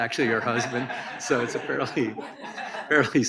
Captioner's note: audience laughs